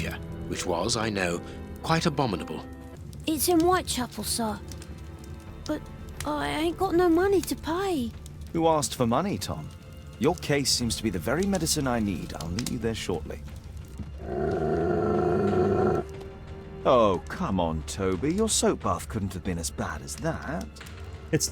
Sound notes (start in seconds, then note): 14.1 Toby Growls